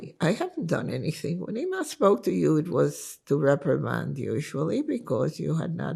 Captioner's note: hebrew